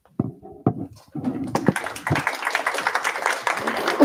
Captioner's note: applause